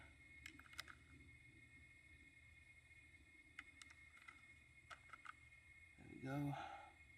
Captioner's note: clicking